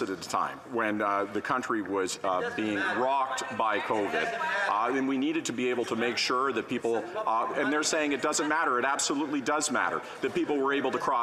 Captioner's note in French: voix de l'interprète